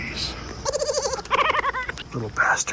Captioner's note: squirrel laughing